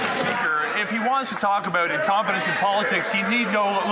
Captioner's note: some Applause